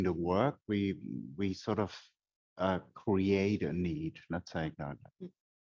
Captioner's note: faintly speaks